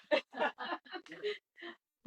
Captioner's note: laughing